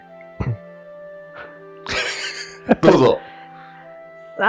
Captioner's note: laughs